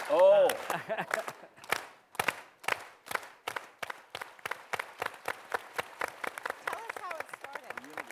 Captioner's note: slow to fast clapping; laughs